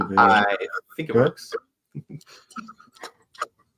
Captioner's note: indistinct chatter